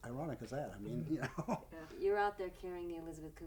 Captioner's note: laughs